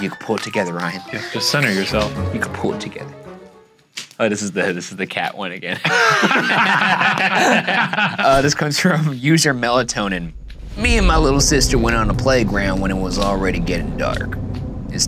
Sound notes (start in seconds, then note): 5.8 laughing